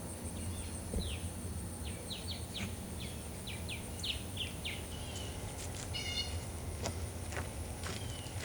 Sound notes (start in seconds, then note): 0.9 birds chirping